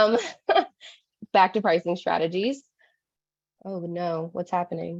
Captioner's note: laughs